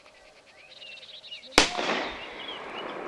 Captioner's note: gunshot